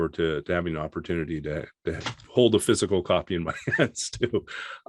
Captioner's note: laughs